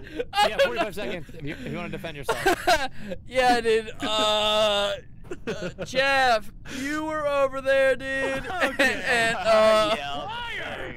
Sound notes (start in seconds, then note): 0.0 laughter; 0.0 laughing; 2.2 laughter; 8.2 laughing